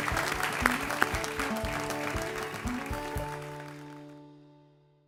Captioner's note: ^applause^